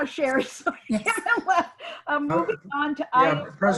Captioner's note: laughs